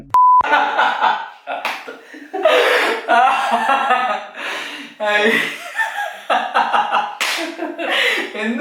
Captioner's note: maniacal laughter and psychotic violence